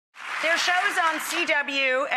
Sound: applause

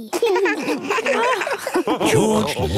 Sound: laughs

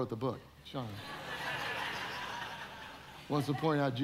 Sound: audience laughing

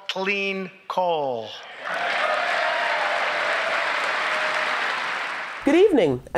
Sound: applause

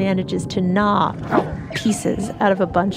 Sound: another roar and another squeaking sound of pain

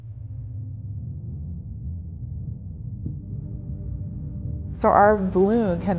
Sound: ground rumbling

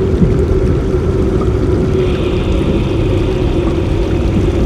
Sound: water flowing; ominous music

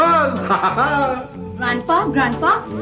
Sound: laughs

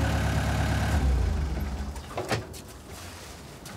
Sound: engine shuts off

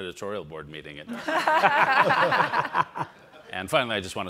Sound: all laugh

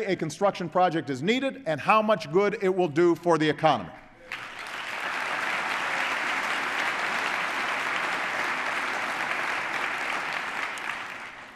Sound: applause

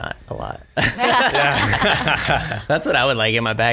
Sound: laughs

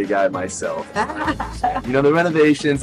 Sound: chuckling

